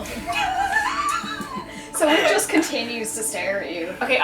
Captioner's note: laughter